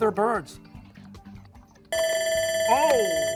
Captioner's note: bell ringing